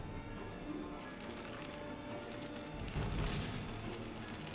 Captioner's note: plaster cracking